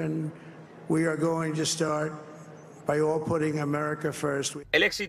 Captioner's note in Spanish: hablando en inglés